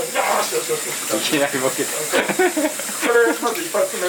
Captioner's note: laughs